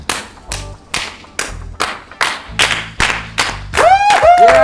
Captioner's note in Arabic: تصفيق لا نهائي